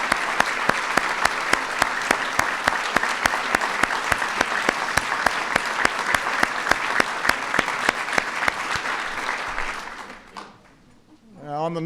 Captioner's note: applause